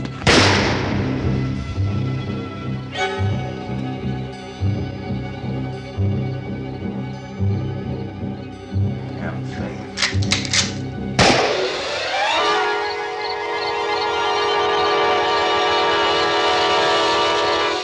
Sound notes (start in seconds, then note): 0.2 gunshot; 9.9 rifle cocks; 11.2 gunshot; 13.7 eerie music